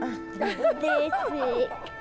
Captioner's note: laughter